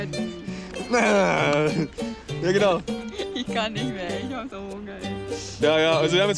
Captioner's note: makes killer noises, both laugh